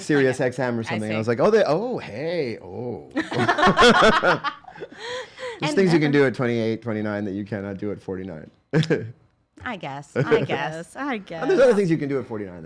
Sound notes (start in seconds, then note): 3.1 laughing